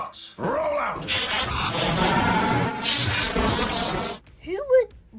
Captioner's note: mechanical noises